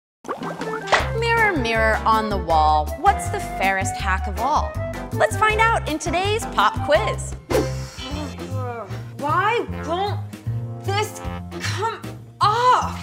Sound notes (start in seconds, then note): 7.6 groans